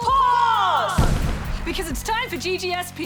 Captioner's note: echoes; crash!